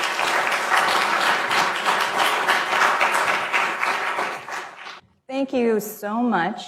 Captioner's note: applause